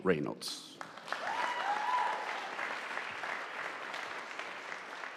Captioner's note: audience applauding